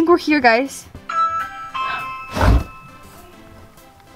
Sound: doorbell

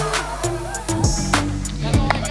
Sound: crack of the bat

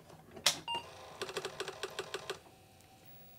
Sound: clicks

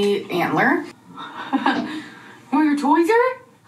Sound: laughs

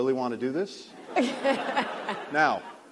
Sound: laughter

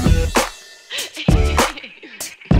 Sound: laughs

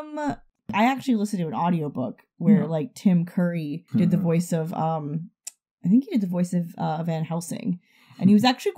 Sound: chuckles

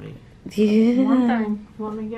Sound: laughs

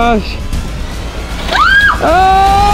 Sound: screams loudly

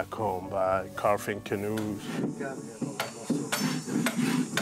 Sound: wood knocking

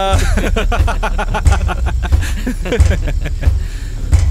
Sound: laughs

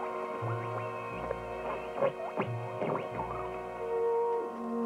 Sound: wireless squelching

